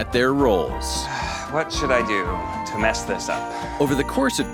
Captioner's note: sighs